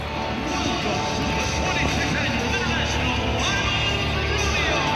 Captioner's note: loudspeaker welcoming crowd